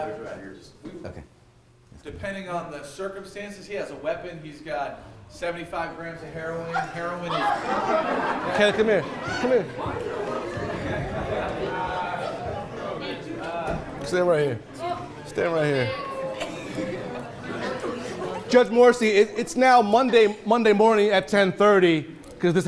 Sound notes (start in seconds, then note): 8.0 attendees laughing